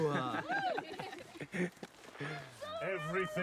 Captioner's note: laughter